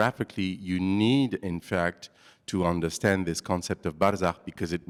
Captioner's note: non-english